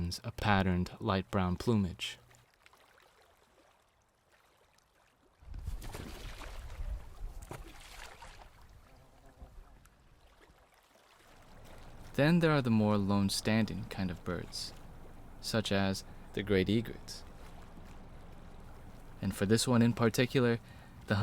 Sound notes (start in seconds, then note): 5.5 water splashes; 5.6 feathers flapping